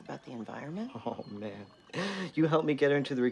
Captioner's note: laughs